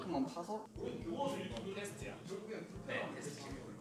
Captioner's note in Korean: 떠드는 소리